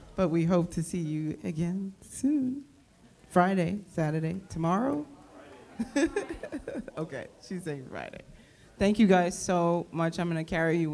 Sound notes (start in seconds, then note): 5.7 laughs